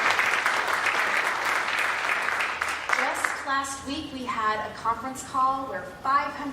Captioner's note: applause